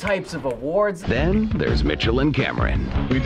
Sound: voice-over

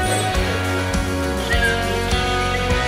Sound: whistle

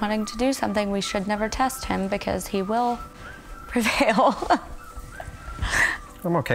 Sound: laughs

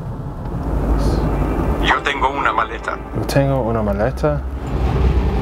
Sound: spanish

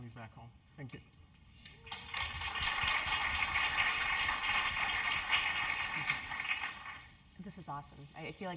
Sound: applause

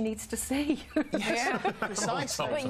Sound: laughter

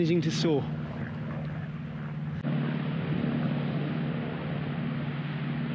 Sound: plane flying overhead

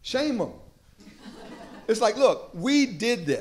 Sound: laughter

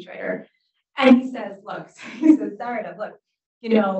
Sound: laughs

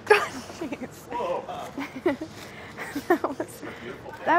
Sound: laughing

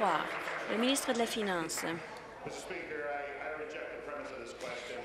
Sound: applause

